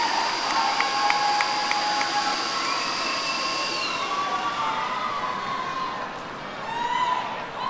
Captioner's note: cheering